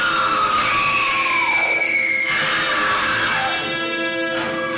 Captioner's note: women screaming wildly